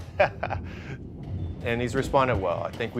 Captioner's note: laughter